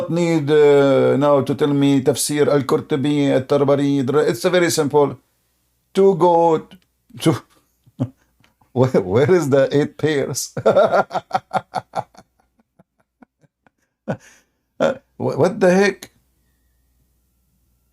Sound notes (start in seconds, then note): 10.5 Ketawa